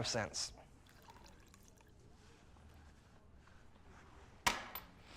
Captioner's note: whiskey dribbling